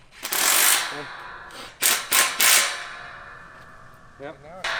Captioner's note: machine whirring